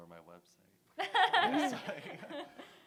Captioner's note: laughter